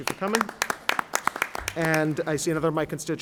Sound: applause

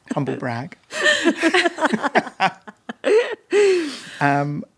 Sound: all laughing

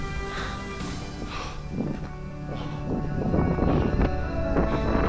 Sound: breathing heavily; wind whipping

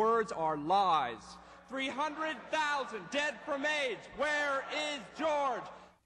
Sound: chanting

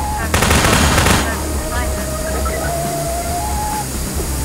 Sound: radio, faintly; steam

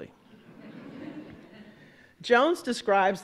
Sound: audience laughing

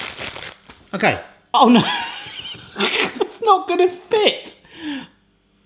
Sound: laughs

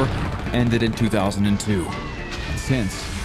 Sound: explosions echoing

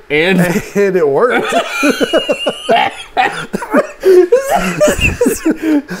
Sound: both hysterically laughing

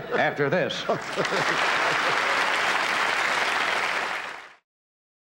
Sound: audience applause

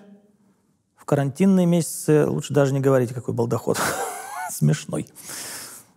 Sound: laughs

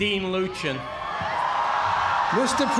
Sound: cheers and applause

